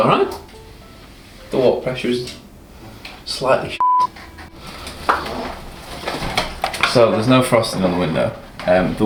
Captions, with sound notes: - It was alright. The water pressure is slightly (beep). So there's no frosting on the window.